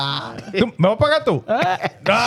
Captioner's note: speaking In Foreign Language